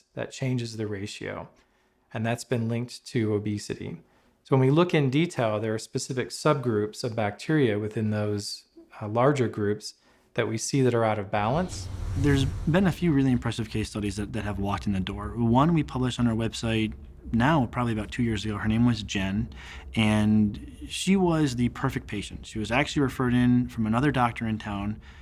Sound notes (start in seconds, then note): 12.1 whooshing